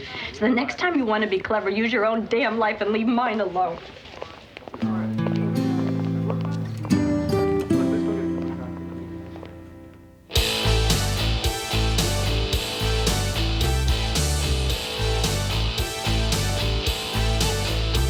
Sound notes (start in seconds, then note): 11.3 pop